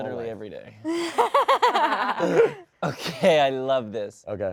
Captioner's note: all laugh